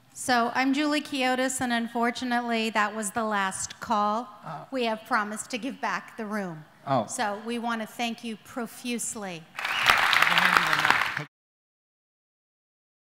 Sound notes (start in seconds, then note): 9.5 applause